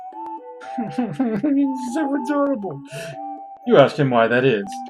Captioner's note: whimpers